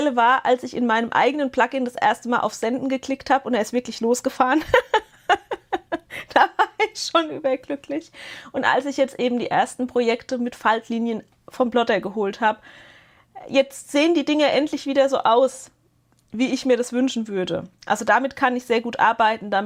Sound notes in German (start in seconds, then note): 4.5 gelächter